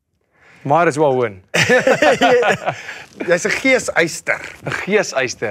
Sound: laughs

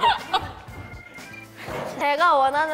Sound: burst into laughter

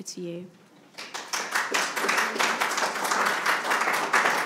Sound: attendees applauding

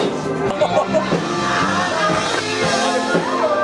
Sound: laughter

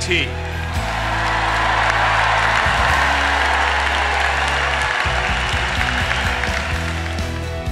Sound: applause and cheers

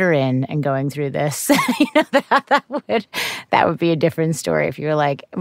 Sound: laughs

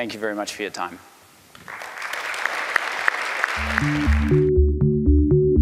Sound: applause

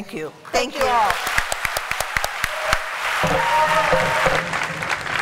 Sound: applause

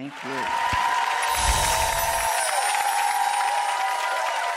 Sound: audience applaudes

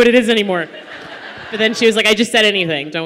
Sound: laughter

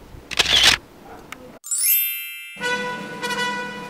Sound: camera click; chime; triumphant trumpet

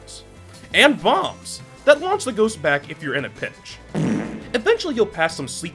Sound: fart with reverb blowing them away

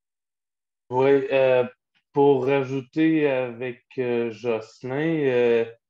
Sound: speaking foreign language

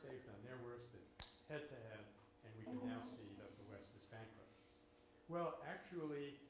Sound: smacks knuckles together

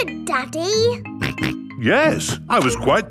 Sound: snorts

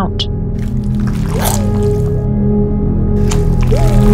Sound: squelching; music swells

